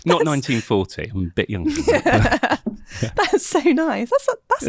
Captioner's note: both laughing